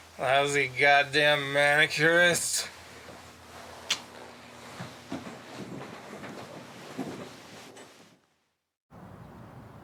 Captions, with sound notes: Lousy goddamn manicurists. (kiss) (footsteps)